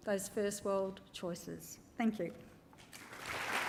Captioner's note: applause